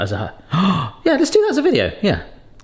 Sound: gasps

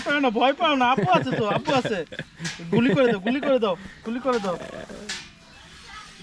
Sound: speaking local language

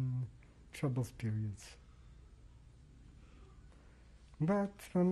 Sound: pauses for 3 seconds

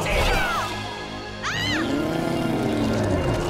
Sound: yells; growling

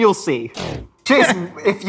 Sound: electronic whooshing

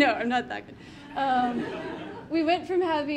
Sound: audience laughing

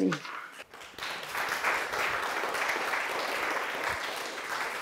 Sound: audience clapping

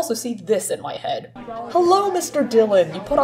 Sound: people talking

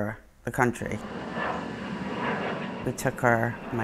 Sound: engine roaring

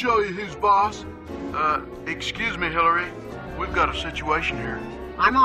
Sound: Bill over speaker

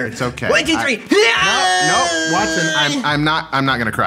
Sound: Watson weeping

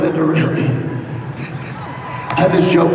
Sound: laughs

